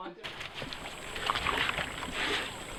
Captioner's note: scrubbing